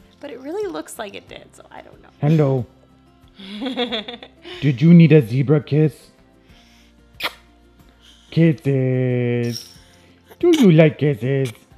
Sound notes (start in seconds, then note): 3.4 laughs; 7.1 kiss sound; 11.5 giggles